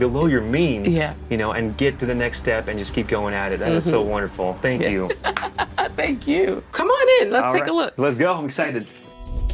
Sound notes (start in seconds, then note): 4.8 laughs; 5.2 palms smack